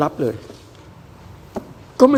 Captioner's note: none